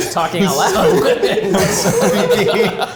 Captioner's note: group laughs